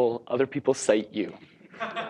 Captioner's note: laughter